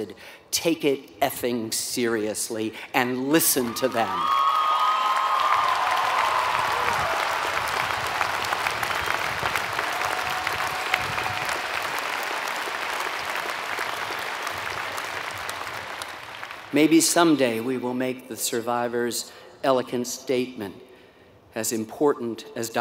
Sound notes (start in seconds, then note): 4.1 applause